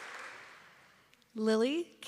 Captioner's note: applause